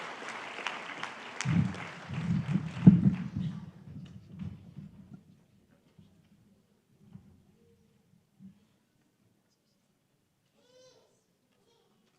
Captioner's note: applause